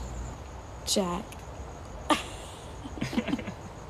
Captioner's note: laughs